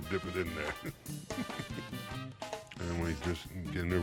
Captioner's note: chuckles